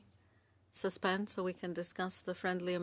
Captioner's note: speaking French